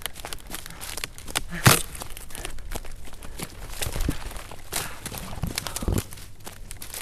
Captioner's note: underbrush crunching; panting